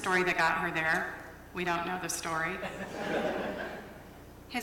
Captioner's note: laughter